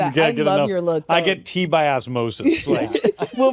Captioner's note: laughter